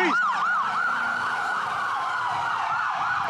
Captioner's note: sirens